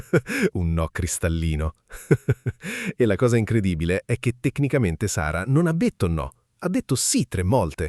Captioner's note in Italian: risate